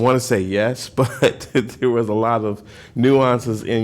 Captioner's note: laughter